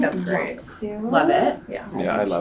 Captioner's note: woman's Voice